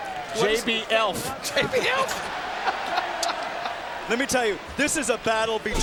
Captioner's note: laugh